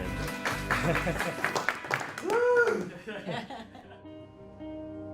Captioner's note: applause, Laughter, and Cheers